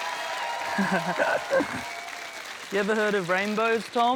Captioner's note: laughs